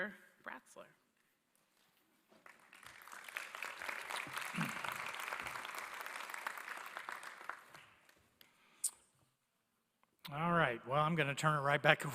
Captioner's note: applause